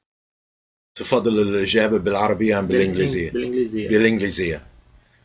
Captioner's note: speaking Arabic